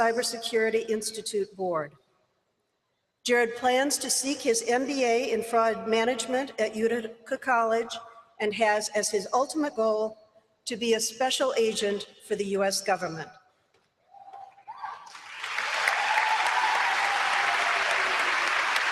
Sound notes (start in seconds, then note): 15.0 applause